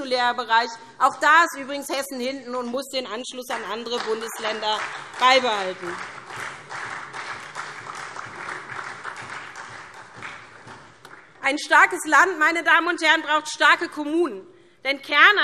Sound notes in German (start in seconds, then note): 8.7 Beifall SPD